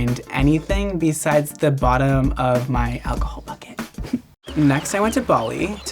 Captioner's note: snickers